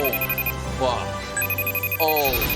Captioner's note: alarm noises